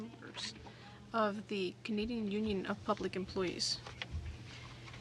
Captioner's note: speaking in French